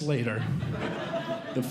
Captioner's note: audience Laughing